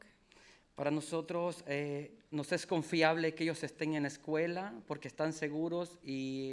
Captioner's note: speaking in foreign language